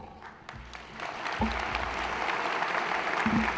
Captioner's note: applause